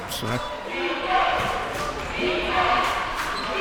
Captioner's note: chanting